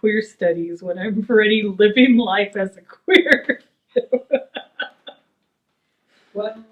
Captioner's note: laughs